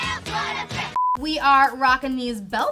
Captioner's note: beeping